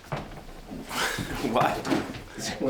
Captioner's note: chuckles